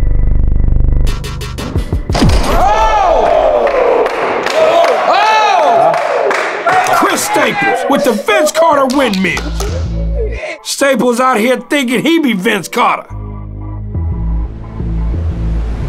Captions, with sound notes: (participants cheering) Chris Staples with the Vince Carter windmill. Staples out here thinking he be Vince Carter.